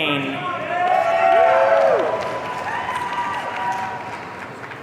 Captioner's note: audience cheering